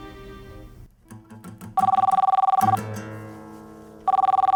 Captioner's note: phone ringing; phone ringing